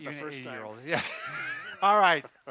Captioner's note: both laugh